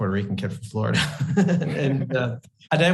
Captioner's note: both laugh